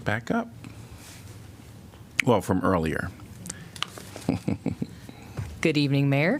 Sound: laughter

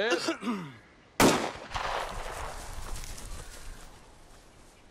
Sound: guns banging

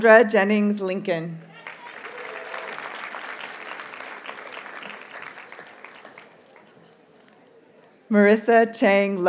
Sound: audience cheers and applauds

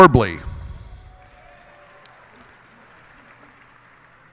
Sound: cheers and applause

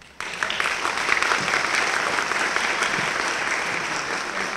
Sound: applause

